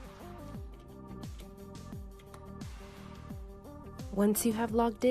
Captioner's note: keyboard clicking